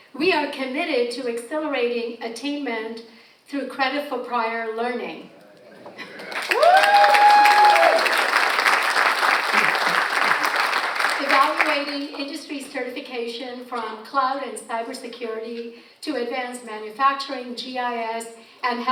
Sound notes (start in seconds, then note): 6.0 audience applauds and cheers